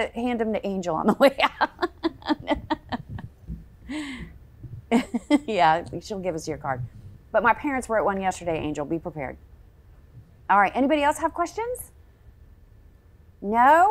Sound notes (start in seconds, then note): 6.1 laughing